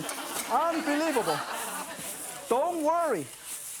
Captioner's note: audience laughing